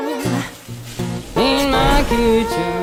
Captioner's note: food sizzling